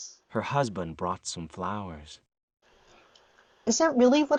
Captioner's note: normal sounding voice